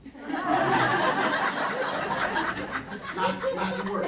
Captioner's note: audience laughing